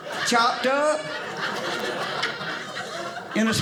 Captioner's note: audience laughing